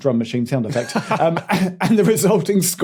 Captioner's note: laughs